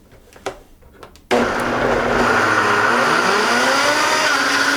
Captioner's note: whirring